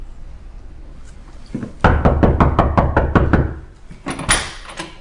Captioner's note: knocking